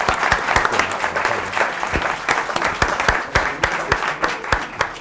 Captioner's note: applause